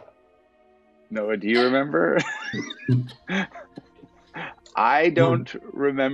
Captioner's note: laughs